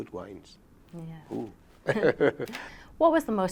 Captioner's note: chuckles